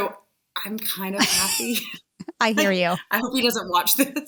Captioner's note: joint laughter